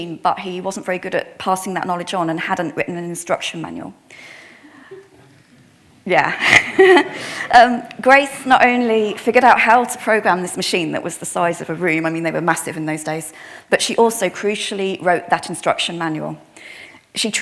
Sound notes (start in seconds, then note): 6.3 attendee laughs; 6.4 laughs; 6.4 attendees laughing